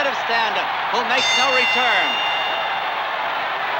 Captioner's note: bell dinging; crowd cheering continues